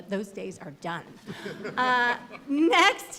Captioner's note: laughter